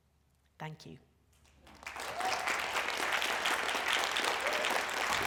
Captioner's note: applause